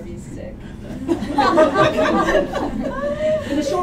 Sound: laughter

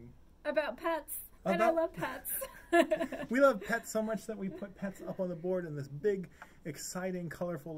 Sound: laughing

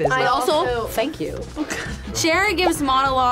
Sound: laughs

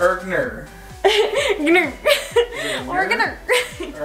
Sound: laughs

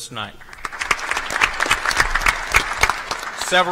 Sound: applause

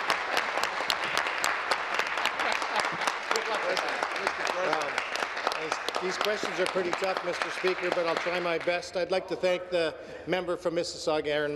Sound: applause

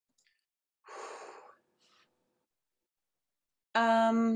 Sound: sighs

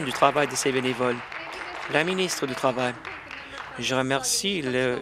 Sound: applause

